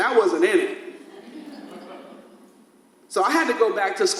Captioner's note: audience laughs